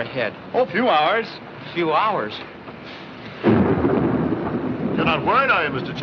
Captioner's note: thunderclap